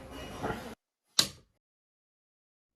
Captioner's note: crack